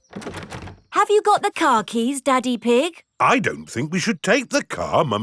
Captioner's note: door rattles